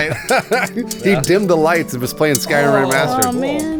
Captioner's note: sword fighting